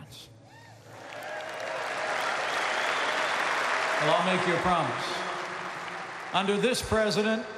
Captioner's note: applause